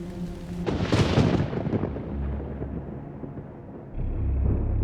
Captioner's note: thunder crashing